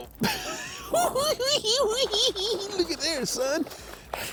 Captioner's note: cackling